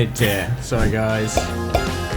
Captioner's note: laughs